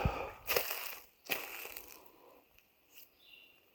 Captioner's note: leaves crunching